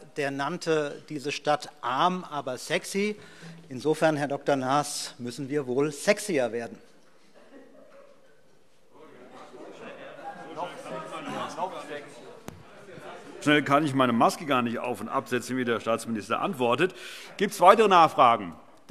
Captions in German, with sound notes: der nannte die Stadt Berlin „arm aber sexy“. Herr Dr. Naas, insofern müssen wir wohl sexyer werden. [Heiterkeit und Zurufe] So schnell, wie der Herr Staatsminister antwortet, kann ich meine Maske gar nicht absetzen und wieder aufziehen. - Gibt es weitere Nachfragen?